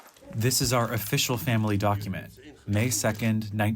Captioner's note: through translator